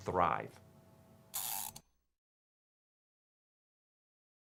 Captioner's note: gear winding